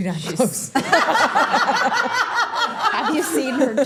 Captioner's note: everyone laughing